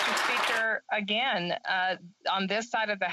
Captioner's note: applause